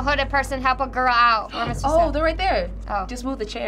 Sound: gasping

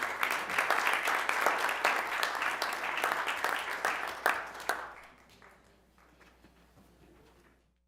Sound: applause

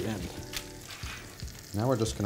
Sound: oil sizzles

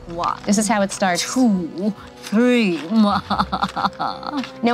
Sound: laughs wickedly

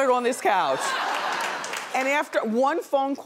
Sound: audience laughing and clapping

